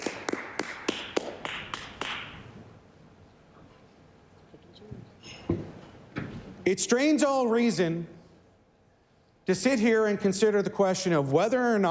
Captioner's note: some Applause